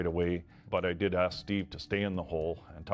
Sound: voiceover

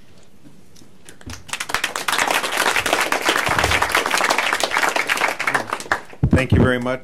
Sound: applause

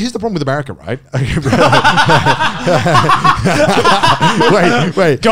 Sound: everyone laughs

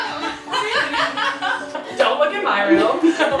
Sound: laugh

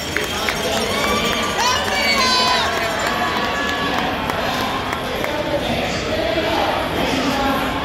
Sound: crowd cheering loudly and applauding

